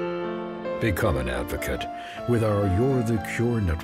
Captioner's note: voiceover